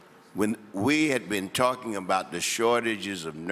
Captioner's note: none